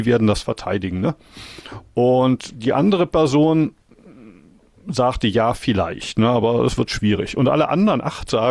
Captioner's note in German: schnauben